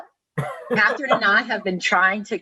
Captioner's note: laughing